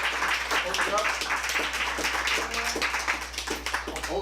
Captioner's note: applause